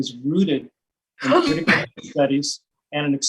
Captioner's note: secretary sneezes